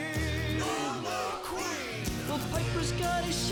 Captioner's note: crowd